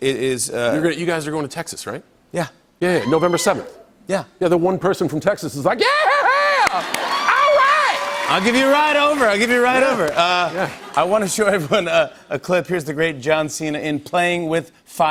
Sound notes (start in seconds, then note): 3.0 cheers; 6.2 laughter